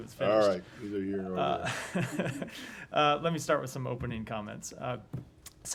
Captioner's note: laughter